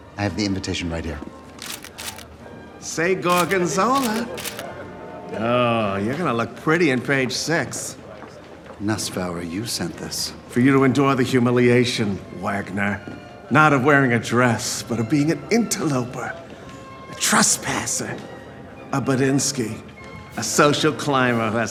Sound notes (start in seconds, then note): 3.3 camera snapping